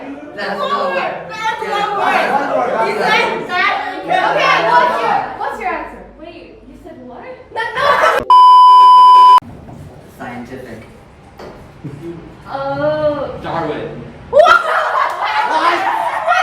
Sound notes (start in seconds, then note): 8.2 beep sound effect; 14.8 guffaws